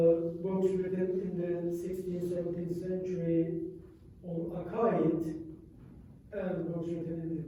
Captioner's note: non-english